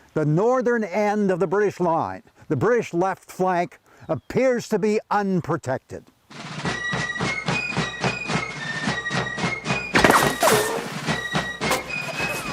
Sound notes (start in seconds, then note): 6.3 drum beats; 6.5 gun shots